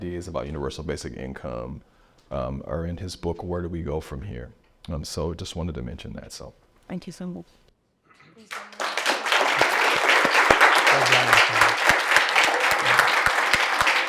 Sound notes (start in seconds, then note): 8.4 applause